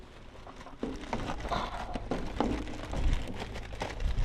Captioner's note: bag crinkles